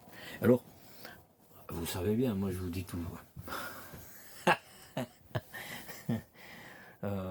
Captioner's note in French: rires